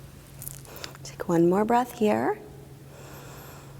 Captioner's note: inhaling